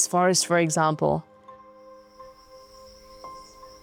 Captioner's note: insects chittering; gentle music